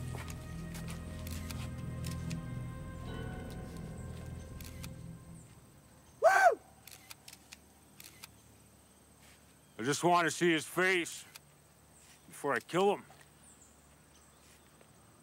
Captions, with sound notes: - Woo! I just wanted to see his face, before I kill him. (cameras clicking)